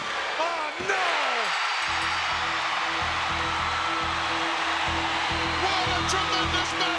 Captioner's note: crowd cheering